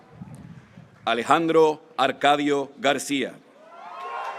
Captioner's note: graduates cheering